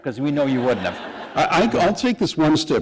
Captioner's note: laughter